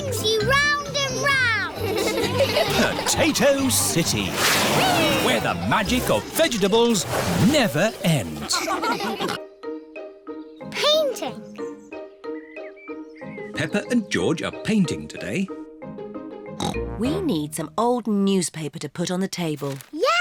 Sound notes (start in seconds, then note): 1.7 all giggling